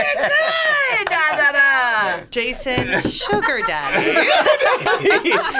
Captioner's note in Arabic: يضحك